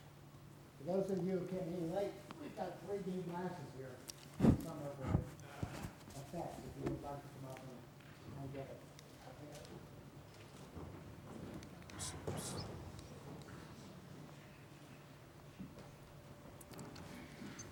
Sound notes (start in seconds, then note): 9.7 silence